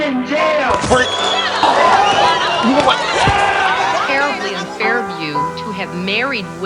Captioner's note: audience whistles